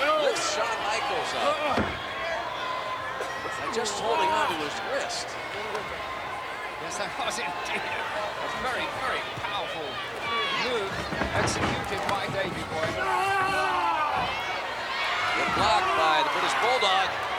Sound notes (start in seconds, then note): 8.1 laughs; 11.6 Shawn bellowing; 11.6 footsteps plodding